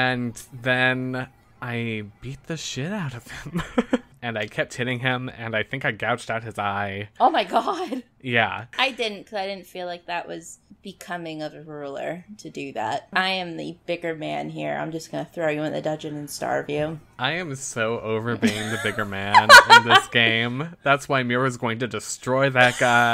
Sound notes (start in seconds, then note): 4.1 laughs; 18.4 laughs